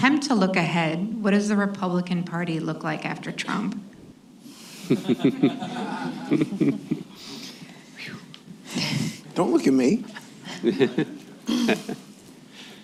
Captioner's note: laughs; laughter